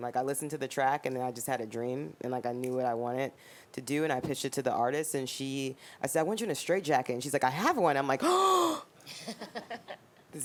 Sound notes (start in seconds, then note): 8.2 inhaling heavily; 9.1 laughing